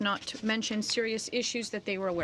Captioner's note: speaking French